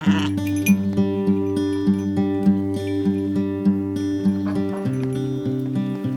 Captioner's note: sheep sheeping